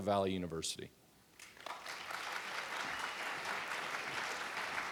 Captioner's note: audience clapping